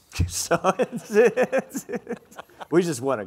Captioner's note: laughing